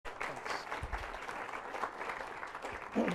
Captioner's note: applause